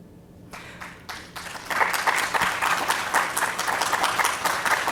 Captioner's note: audience applauds